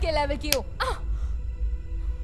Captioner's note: Slaps